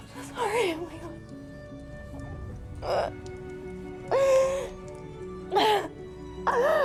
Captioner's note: gentle solemn music; Kira continues sobbing